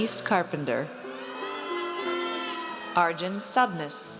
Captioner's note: audience cheers